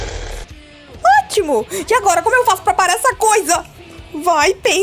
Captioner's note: monstrous scream